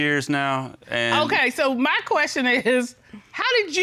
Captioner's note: chuckles